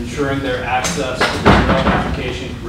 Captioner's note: door closing